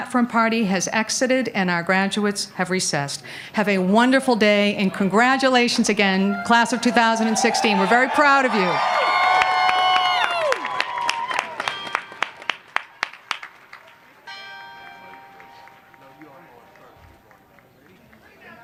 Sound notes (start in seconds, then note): 8.5 applause; 11.5 bell rings